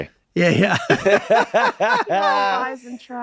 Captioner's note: all laughing